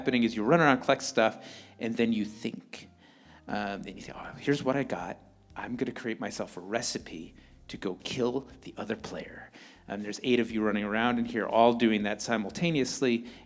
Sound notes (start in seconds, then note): none